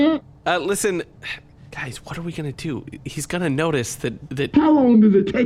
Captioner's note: whispered